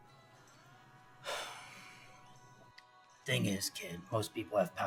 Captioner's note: Hank sighs